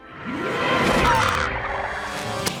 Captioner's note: logo whooshing; heroic music; glove snaps